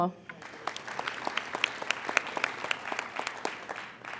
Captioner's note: applauding